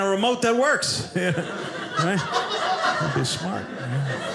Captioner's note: audience laughing